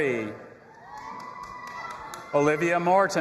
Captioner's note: audience applauding and cheering